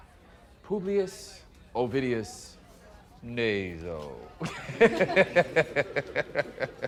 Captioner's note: laughs